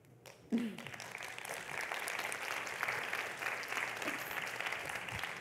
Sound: audience applauding

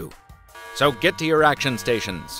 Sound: alarm blaring

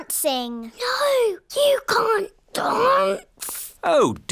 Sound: whispers

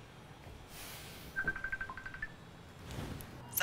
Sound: phone ring

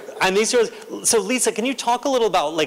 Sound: laughter

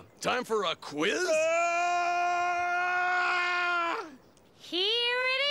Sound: Stinky yelling

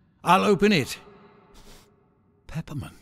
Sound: sniffing

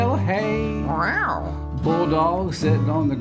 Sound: mimics cat meow

